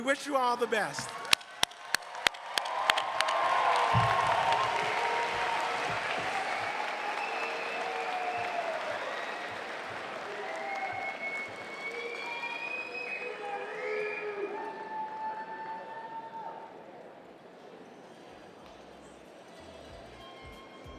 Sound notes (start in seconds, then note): 2.8 cheers and applause